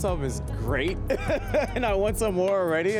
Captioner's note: laughs